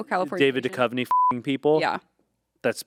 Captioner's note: beep